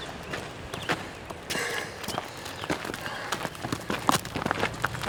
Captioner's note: heavy breathing